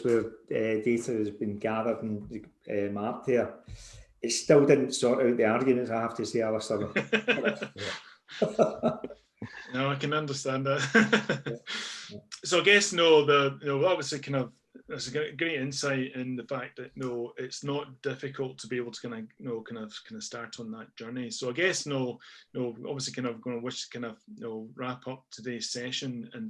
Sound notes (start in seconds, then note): 6.7 laughs